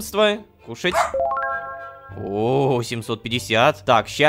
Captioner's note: dog's bark